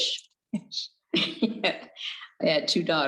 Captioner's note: both chuckles